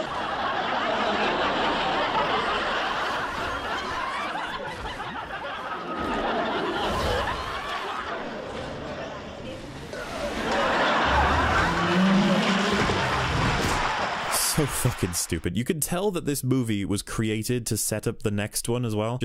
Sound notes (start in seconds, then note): 0.0 laughing; 9.9 laughing; 11.6 applause